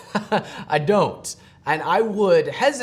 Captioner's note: chuckle